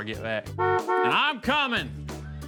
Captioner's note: horn honks